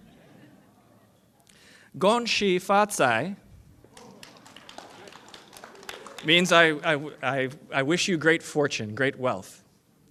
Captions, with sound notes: THAT MEANS HAPPY YEAR OF THE MONKEY. [ FOREIGN LANGUAGE ] [ APPLAUSE ]